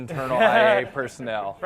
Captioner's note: laugh